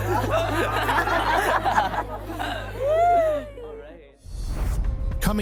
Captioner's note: cheering